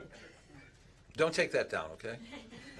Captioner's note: laughter